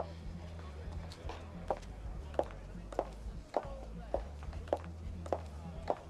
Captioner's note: Kate sighs; attendees chattering; heels clacking